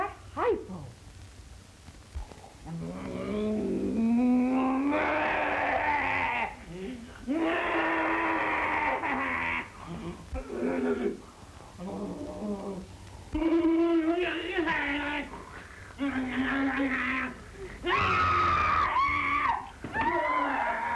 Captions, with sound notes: What was in that hypo? [maniacal groaning]